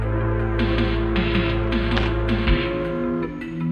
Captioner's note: train whistle